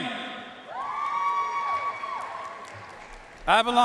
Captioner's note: audience cheering and applauding